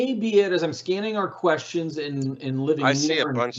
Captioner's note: faintly speaking